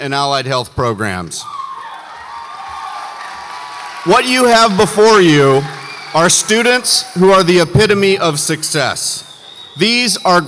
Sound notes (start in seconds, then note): 2.4 audience cheers